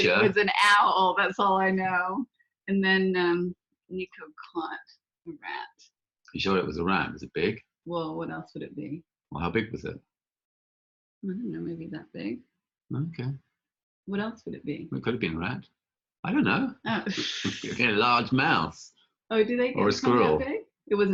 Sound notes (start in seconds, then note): 17.1 laughing